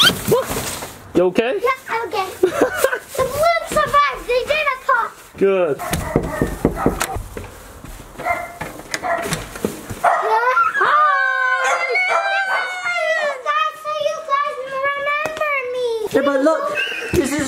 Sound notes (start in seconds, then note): 2.4 laughs; 5.8 knocking on door